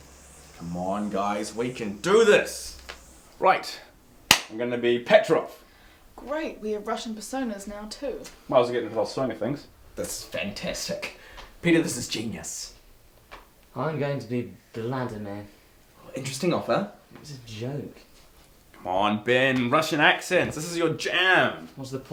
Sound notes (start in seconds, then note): 2.7 clicking; 4.3 claps